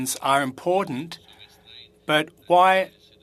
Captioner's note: speaking French